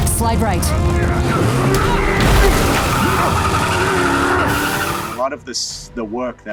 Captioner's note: vehicle engine roaring